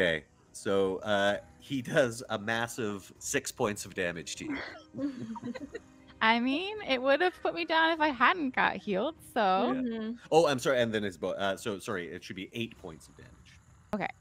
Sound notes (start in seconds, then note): 4.5 all laughing